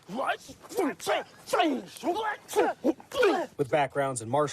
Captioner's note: fighters grunting